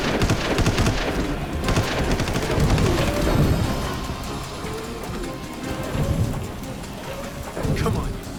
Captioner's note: gunshot